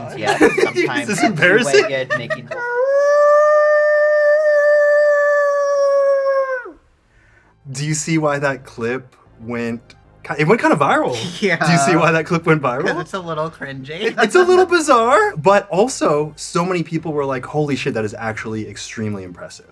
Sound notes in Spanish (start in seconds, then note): 0.0 risas; 2.5 aullido